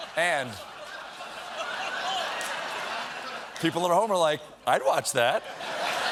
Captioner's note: laughter